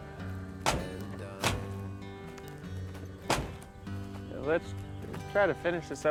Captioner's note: truck doors slamming shut